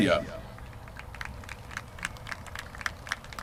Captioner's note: applause